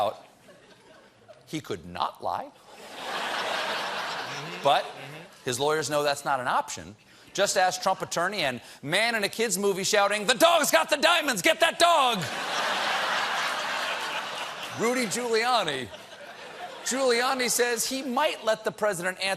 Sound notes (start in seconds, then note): 4.7 laughter